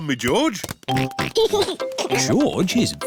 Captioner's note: oinks and giggles